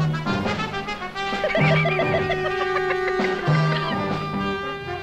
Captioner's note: laughing; upbeat instrumental music; laughing